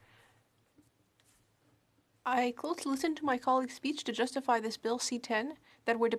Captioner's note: speaking French